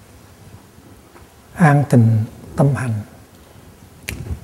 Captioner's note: Vietnamese